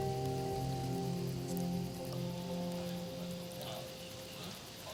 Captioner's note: chattering